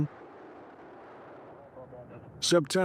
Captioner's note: rocket whooshing